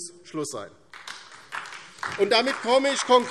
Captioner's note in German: Beifall DIE LINKE und SPD